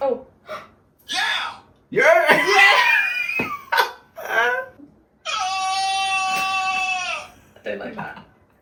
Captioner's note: male screams